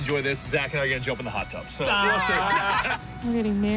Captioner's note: laughter